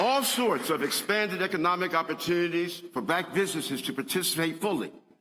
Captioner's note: applause